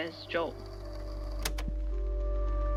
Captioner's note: click